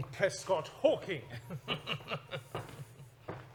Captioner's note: chuckles